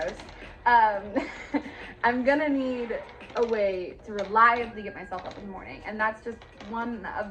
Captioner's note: laugh